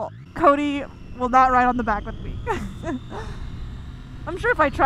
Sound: laughs

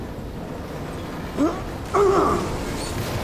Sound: grunts

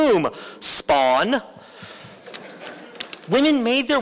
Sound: laughter

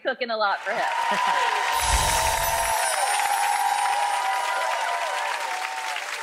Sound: audience applauding and cheering

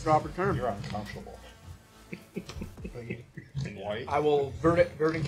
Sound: laughing

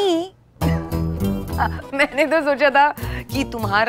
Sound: Sheena laughs

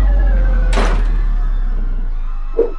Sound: doors slamming

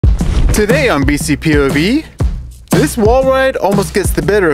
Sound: narrator voiceover

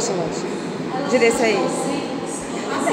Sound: laughter

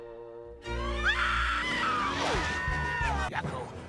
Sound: screaming

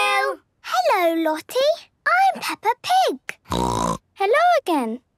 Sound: snorting

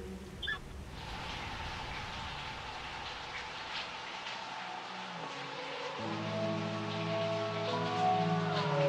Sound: shower running

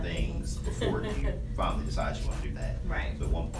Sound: laughing

